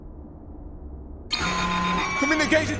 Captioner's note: roar of alarms